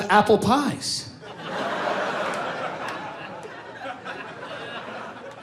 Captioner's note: audience laughing